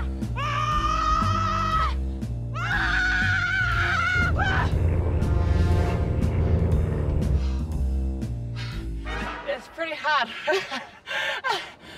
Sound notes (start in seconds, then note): 2.6 continues yelling; 10.2 laughs